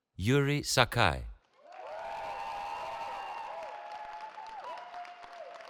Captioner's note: cheering